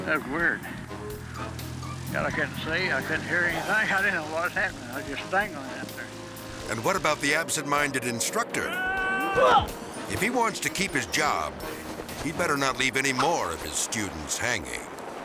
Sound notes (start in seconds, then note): 8.6 screams; 8.6 both grunt; 9.8 both thud